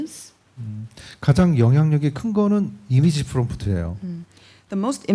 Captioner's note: speaking korean